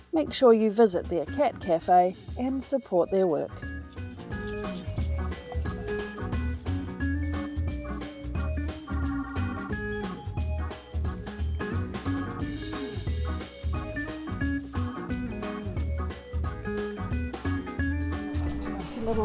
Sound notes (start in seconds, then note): 2.3 hoofbeats and bells